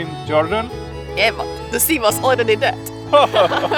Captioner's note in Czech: haha